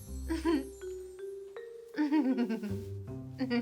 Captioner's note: giggles